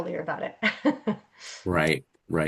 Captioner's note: laughs